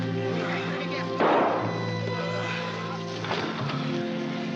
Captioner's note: gunshot